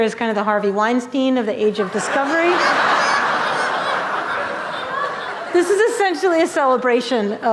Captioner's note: laughter